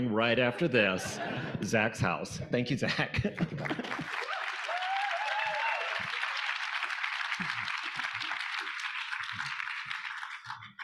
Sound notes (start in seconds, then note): 3.4 audience applauding; 4.0 audience cheering